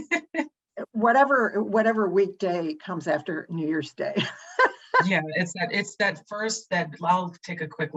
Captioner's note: laughs